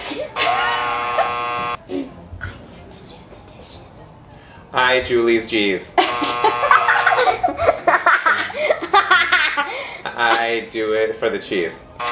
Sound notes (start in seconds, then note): 0.3 buzzer buzzing; 6.0 buzzer buzzing; 6.0 laughing